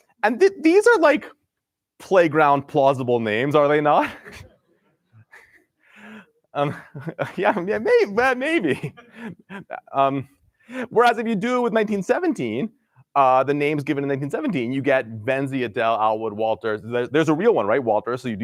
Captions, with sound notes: And these are playground plausible names, are they not? [LAUGHTER] Yeah, maybe, maybe. Whereas, if you do with 1917, the names given in 1917, you get Vensie, Adelle, Allwood, Walter-- there's a real one, Walter, so you